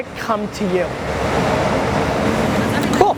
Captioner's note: car engines revving